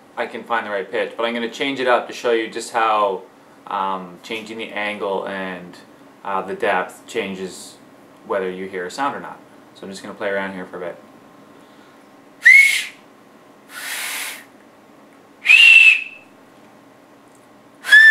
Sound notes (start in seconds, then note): 12.4 higher pitch whistle; 12.4 lower pitch whistle; 12.4 normal whistle